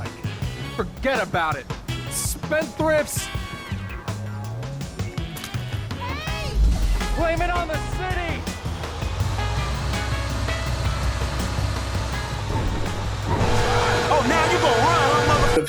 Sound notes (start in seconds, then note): 6.0 woman exclaims; 8.3 bus engine revving; 13.6 horns blaring